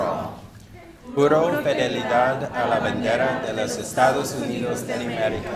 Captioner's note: speaks in a foreign language